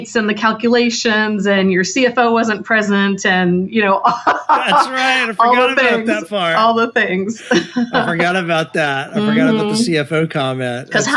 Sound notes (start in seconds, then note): 4.1 laughs